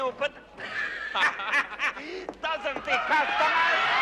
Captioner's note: смеется